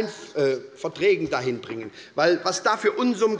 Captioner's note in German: none